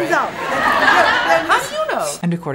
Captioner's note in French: Rires